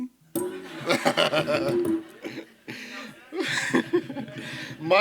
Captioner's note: laughter